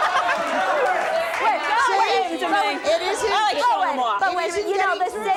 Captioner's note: laughs; women shout over each other